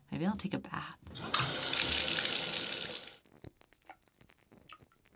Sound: water splashing

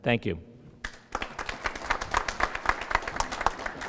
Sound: applause

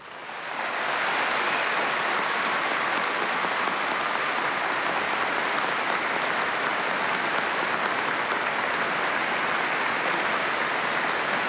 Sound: applause

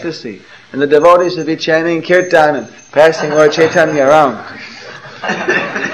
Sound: laughter

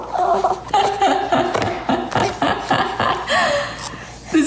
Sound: laughs

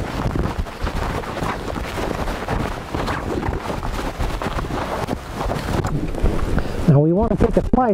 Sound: sound of digging

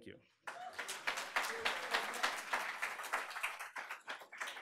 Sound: audience applauding

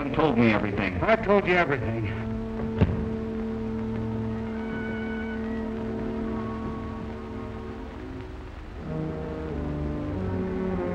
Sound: thumping

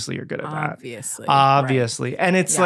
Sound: both, sarcastically

